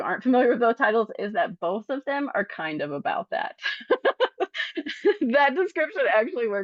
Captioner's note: laughs